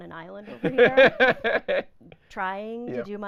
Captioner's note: laughing